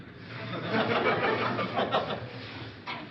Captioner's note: laughter